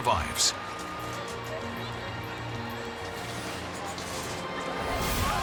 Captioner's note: siren and screams